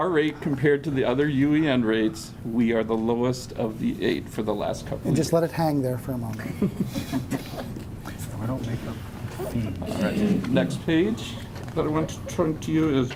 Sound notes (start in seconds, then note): 6.4 laughing